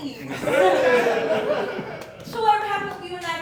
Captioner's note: audience Laughing